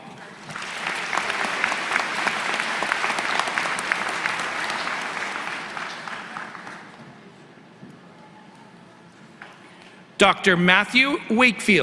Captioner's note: applause